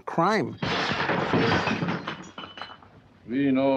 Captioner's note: objects clattering